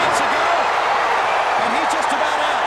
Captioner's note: crowd cheers